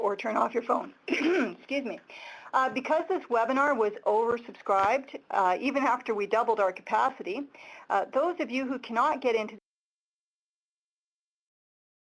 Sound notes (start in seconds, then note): 1.1 clears throat; 9.7 audio cuts out